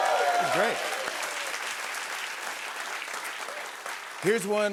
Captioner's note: cheers and applause